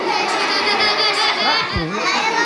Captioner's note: kids laughing